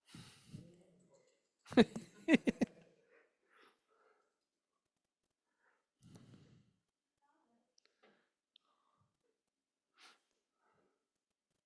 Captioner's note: chuckles